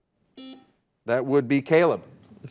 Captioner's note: buzzer buzzing